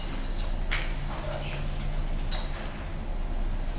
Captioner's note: whispering